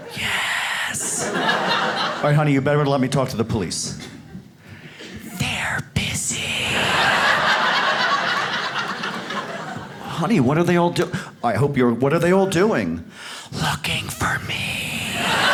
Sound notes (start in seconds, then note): 0.1 whispering; 1.0 audience laughs; 5.2 whispering; 6.7 audience laughs; 13.5 whispering; 15.1 audience laughs